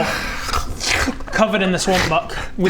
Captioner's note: snarl